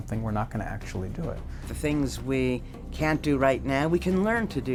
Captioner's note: none